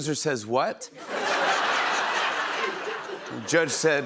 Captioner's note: laughter